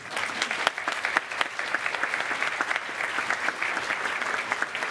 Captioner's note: cheers and applause